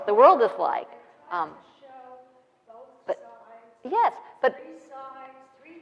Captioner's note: audience member speaking softly